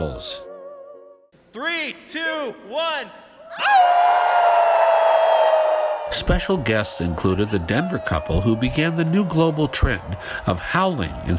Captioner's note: howl